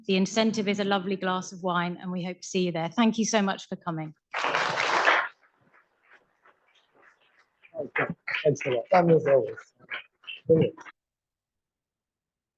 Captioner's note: applause